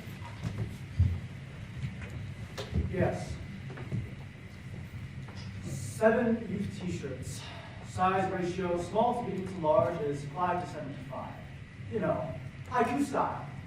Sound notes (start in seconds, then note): none